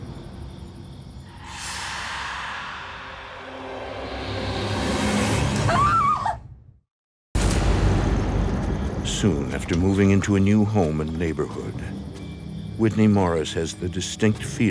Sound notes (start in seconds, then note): 5.6 Whitney screams; 7.4 eerie music